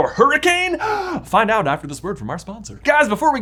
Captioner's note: gasps